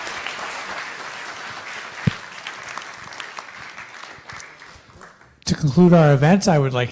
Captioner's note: applause